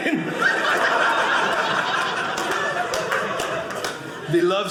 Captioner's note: audience laughing